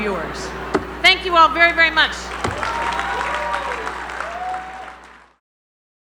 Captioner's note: applause